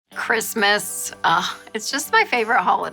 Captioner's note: sighing